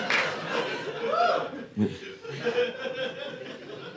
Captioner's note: audience laughing